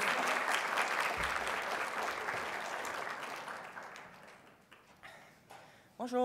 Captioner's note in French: applaudissements